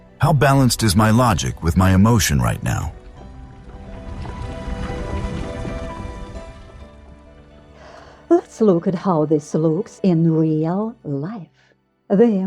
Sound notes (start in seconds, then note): 3.4 sound of rockfall